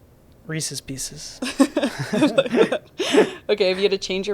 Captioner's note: both laughing